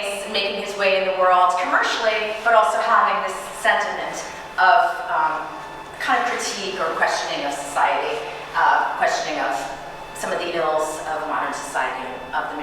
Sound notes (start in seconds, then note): none